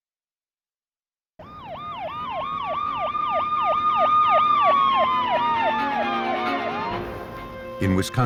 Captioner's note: sirens